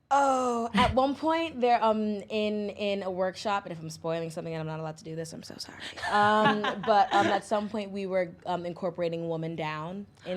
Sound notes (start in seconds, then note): 6.0 laughs